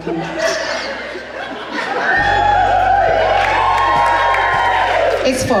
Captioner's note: audience applause